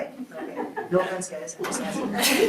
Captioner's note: group laughs; group chuckles